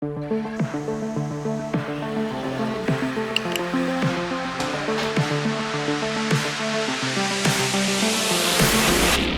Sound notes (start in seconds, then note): 0.4 building Snythesizer Music; 1.5 click, Click Sound